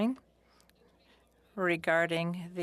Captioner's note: speaking french